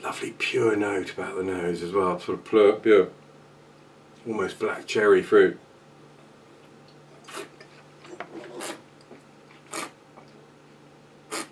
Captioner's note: slurping